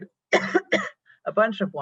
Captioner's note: coughs